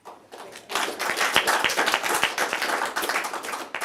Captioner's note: applause